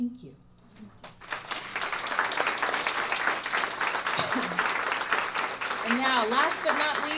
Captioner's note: applause